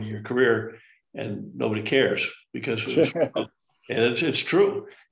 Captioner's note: laughs